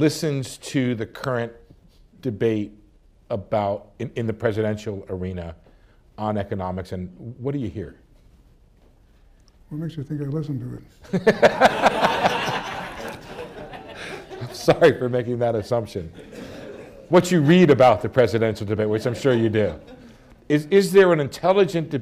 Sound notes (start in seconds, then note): 14.7 laughter; 15.5 laughs